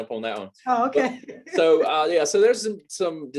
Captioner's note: laughs